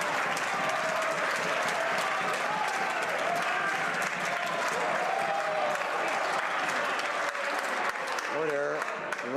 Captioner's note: some Applause